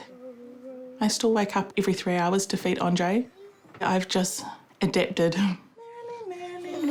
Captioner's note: chuckles